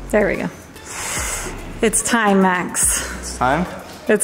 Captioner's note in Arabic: يستنشق بحدة